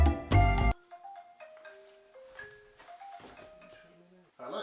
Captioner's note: phone rings